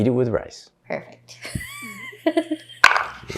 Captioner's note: laughing